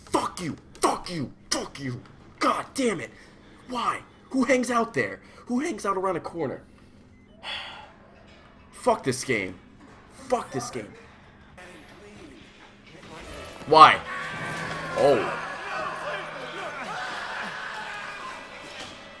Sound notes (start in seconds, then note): 7.4 sigh